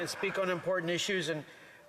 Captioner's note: speaking French